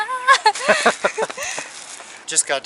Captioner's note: laughter